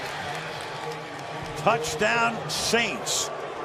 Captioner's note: pa announcement